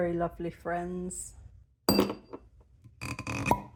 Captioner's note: clink of ice; squeak and pop